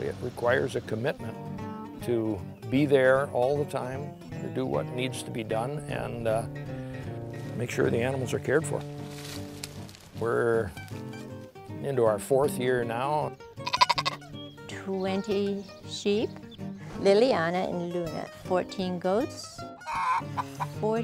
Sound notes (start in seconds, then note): 13.6 goat bleating; 19.8 chicken clucking